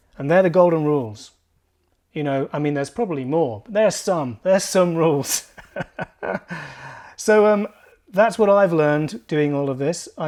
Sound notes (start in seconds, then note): 5.2 laughs